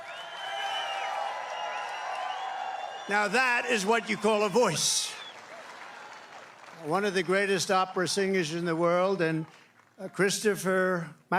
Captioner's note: applause